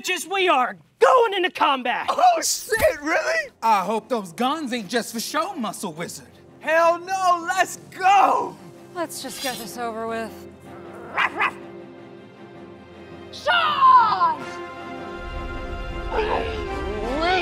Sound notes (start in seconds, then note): 8.5 drawing sword; 11.0 barks